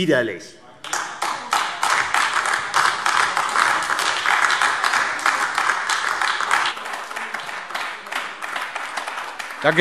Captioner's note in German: Beifall AfD - Zurufe